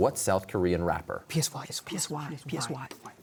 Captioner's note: whispering